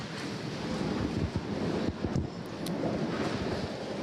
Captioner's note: chairs scraping